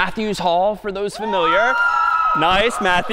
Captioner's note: cheering